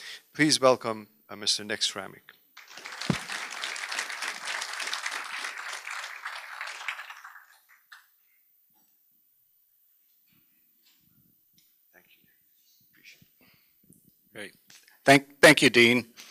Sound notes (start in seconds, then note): 2.6 applause; 8.5 silence